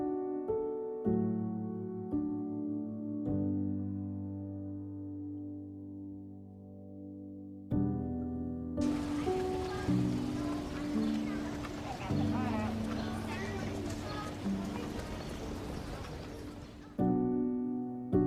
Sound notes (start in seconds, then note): 8.8 children talking